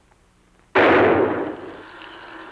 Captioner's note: bang